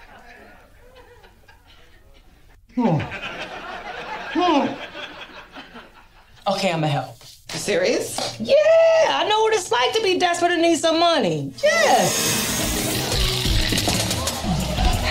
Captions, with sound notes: [laughter] Okay? I'm going to help. You serious. Yeah. I know what it's like to be desperate and need some money. Yes.